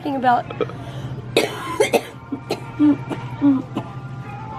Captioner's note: coughing